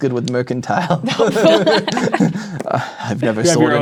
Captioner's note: players laughing